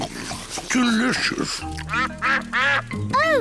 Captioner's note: ducks quack